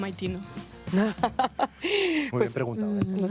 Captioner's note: sexy laugh that kills us all lesbehonest